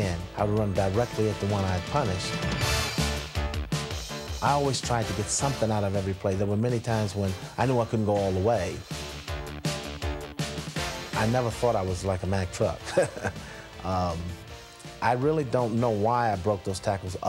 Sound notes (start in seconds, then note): 12.8 chuckles